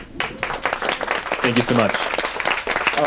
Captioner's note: audience applauds